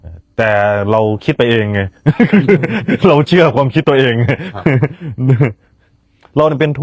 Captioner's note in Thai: เสียงหัวเราะ